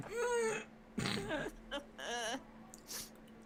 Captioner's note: ugly laughter